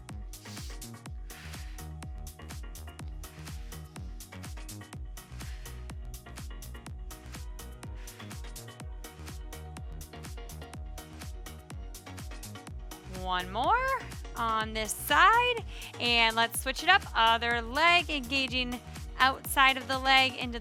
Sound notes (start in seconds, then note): 0.1 upbeat lively music; 3.0 exhaling deeply